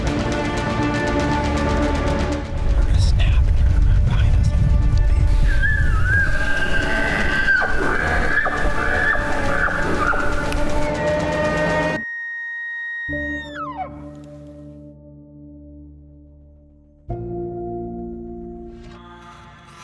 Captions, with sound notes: We heard a snap behind us, and there was a big bull! (Elk bugling) (Caller bugling)